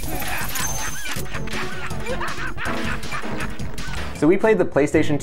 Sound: laughs

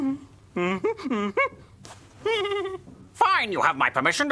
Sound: Wizard giggles

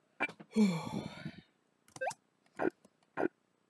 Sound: heavy exhaling

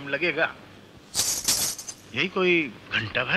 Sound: bangles clinking

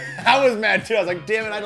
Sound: laughing

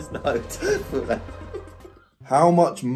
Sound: both laughing

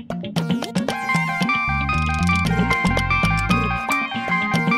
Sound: phone rings

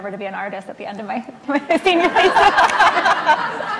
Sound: laughs

